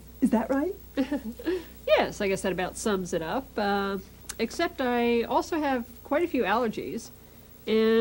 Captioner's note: laughs